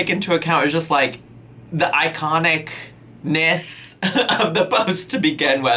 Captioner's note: laughing